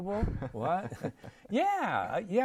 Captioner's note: laughter